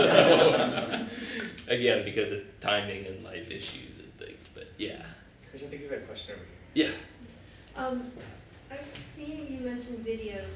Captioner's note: laughter